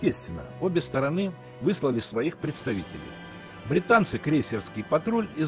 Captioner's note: German